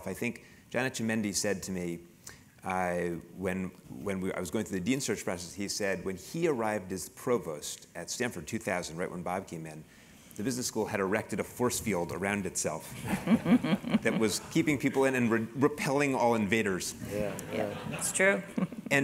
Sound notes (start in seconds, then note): 13.0 laugh; 17.0 laugh